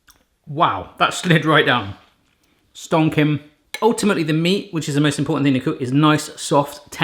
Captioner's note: none